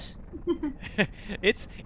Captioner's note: laughs